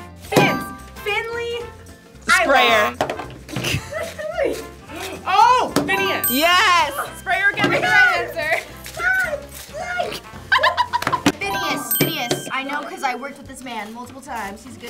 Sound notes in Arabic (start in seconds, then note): 9.3 تصرخ; 10.6 يضحك